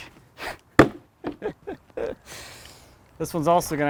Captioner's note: laughing